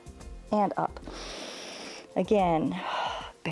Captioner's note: exhales; inhales